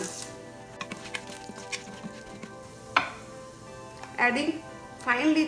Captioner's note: stirring